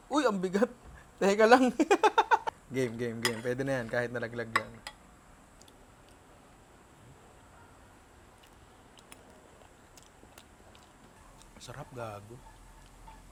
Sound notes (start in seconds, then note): 1.7 chuckles